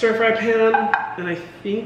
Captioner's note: knocking